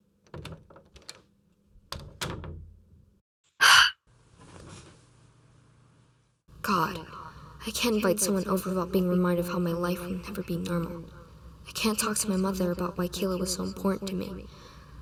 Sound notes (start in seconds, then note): 0.2 door closes. lucy sighs and lies down; 3.6 exhales